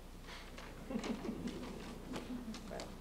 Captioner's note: laughter